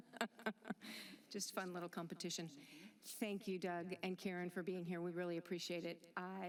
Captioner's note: laughter